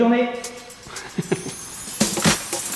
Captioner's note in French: Rires